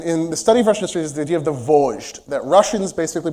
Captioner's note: russian